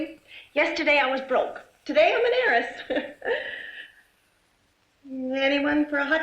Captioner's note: chuckling